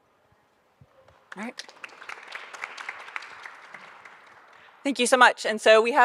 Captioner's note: audience applauding